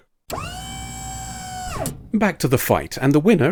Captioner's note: hydraulic whine